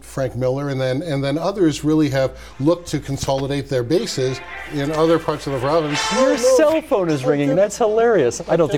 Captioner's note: phone ringing